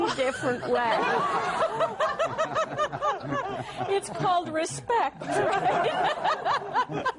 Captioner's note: laughter